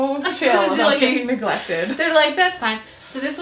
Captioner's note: laughing